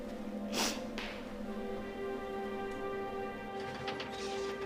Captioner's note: sniffles; door opening